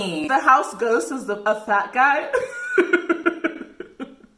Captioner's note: laughs